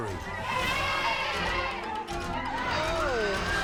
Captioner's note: elephant trumpeting